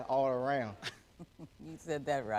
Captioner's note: chuckles